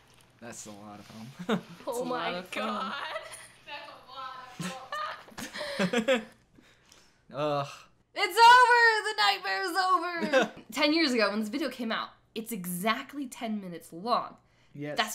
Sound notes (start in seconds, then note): 5.3 chuckles disbelievingly; 7.1 loud sigh